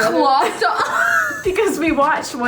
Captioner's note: laughing